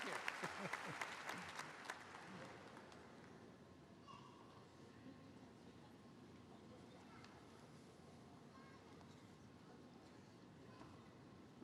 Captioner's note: applause